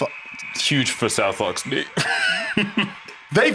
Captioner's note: laughs